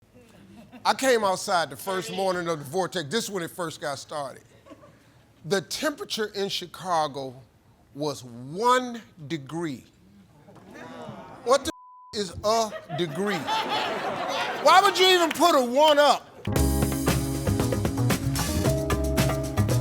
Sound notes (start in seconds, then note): 11.7 beep; 12.5 audience laughing; 16.4 upbeat jazz